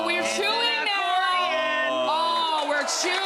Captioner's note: crowd cheers